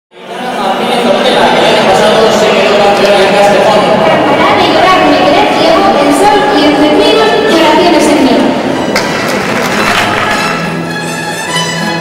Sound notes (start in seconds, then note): 9.1 applause; 11.5 music of guitars, bandurria and lute